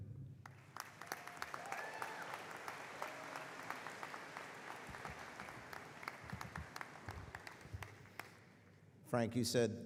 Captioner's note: applause